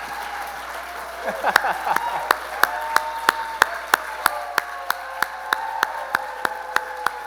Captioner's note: applause